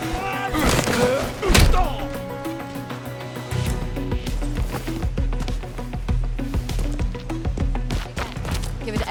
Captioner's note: groaning